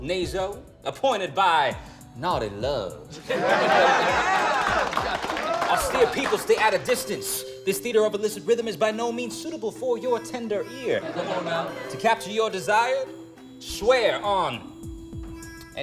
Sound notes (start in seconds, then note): 10.9 laughter